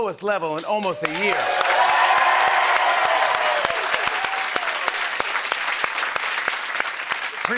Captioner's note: cheering and applause